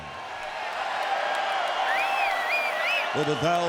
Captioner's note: audience cheers